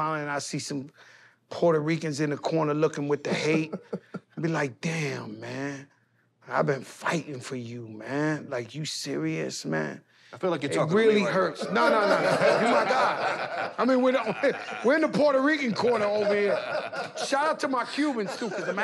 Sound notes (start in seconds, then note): 3.2 laughs; 13.0 laughter